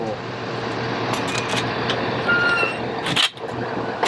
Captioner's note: engine roars